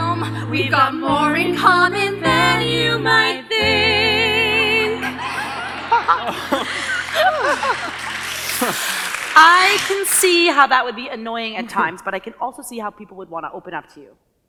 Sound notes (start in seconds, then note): 5.1 audience applause; 5.3 piano music ends